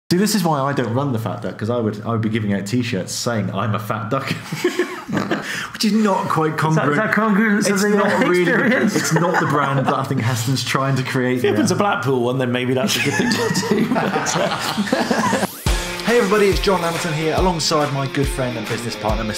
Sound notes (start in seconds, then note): 6.7 laughing; 12.8 laughing